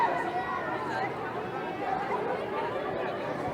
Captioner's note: background crowd noise